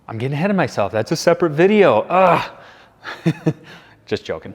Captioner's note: chuckles